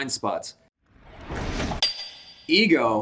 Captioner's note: metallic clinking